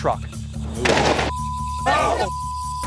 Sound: explosion; beep

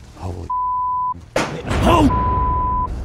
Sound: loud bang

